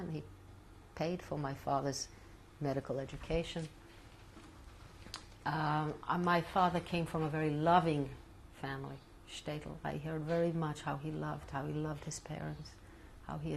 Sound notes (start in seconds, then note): 3.7 pauses for 3 seconds